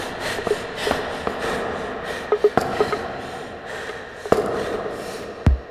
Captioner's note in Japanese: 息切れ